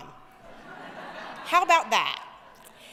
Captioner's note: audience laughing